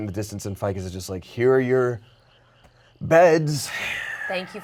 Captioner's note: sighs